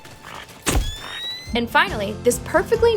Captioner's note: camera flashes